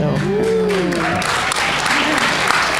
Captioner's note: applause